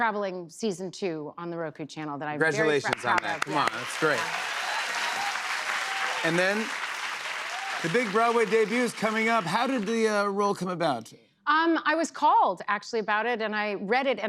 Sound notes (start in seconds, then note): 4.3 cheers and applause